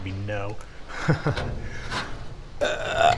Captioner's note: chuckles